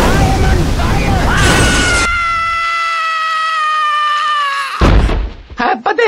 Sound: still screaming

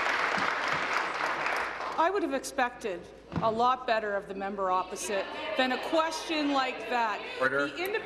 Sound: applause

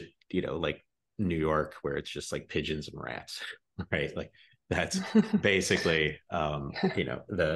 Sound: giggles

